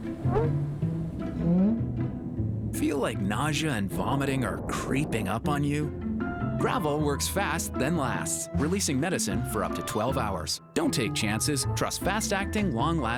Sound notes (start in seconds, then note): none